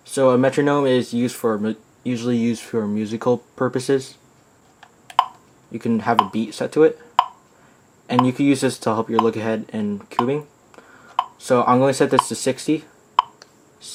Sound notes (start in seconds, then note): 7.2 metronome beeping